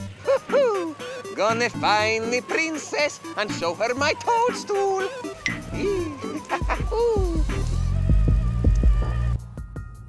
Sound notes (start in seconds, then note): 5.6 the chuckling of a madman